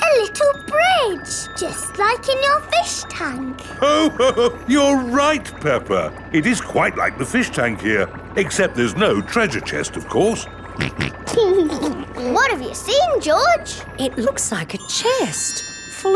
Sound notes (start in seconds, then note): 3.7 laughs; 10.8 snorts and laughs